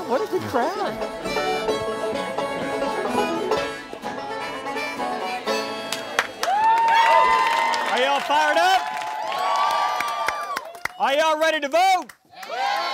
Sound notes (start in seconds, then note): 1.6 country music; 5.8 crowd applauding and cheering